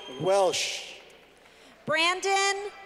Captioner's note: clapping